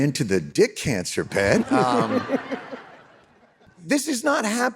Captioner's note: audience laughing